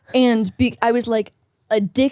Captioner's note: none